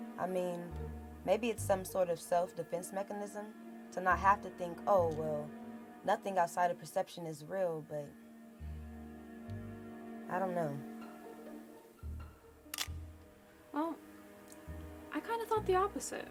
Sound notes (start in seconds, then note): 12.7 camera clicks